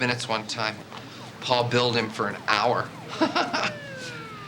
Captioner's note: police siren blaring; laughs